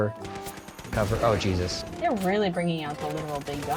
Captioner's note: bomb explodes